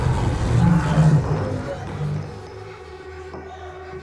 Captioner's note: screaming